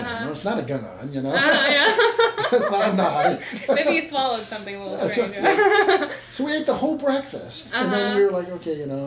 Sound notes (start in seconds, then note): 1.4 laughs; 5.4 laughs